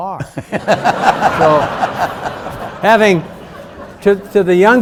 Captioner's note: and audience laughs